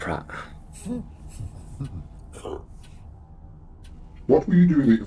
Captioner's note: voice snickers